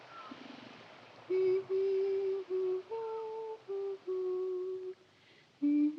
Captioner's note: humming